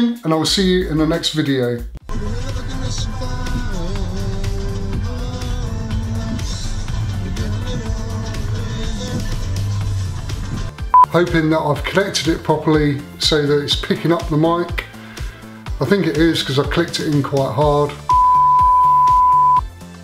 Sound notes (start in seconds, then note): 2.2 happy music; 10.9 beep; 18.0 beep; 19.8 happy music